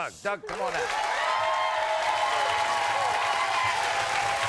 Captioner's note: applauding